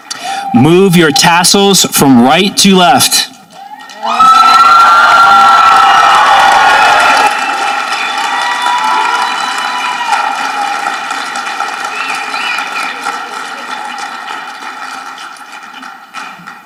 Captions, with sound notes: Move your tassels from right to left. (audience applauding)